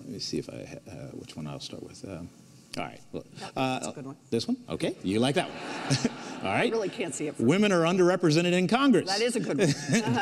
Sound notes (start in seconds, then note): 5.4 audience laughs; 6.0 laughs